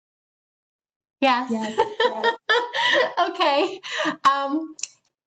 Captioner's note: laughs